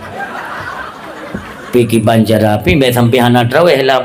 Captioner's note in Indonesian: tertawa